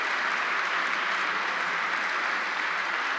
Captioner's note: applause